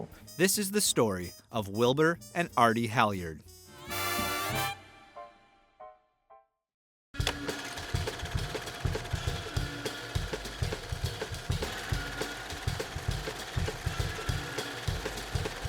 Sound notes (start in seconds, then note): 3.9 lively instrumental music; 7.2 film reel rattling; 7.3 faint upbeat music